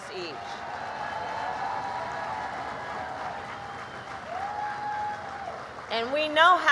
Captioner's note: applause